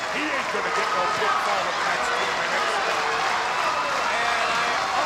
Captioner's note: audience applauding